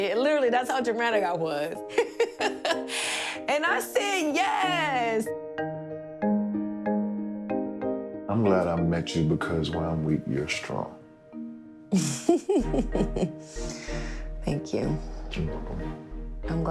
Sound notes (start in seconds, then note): 1.7 laughs; 11.9 chuckles